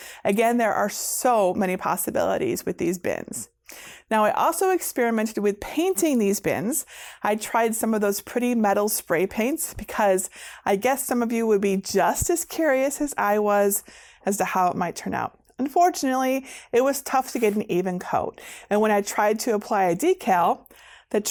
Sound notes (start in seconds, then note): none